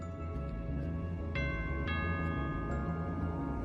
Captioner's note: rings doorbell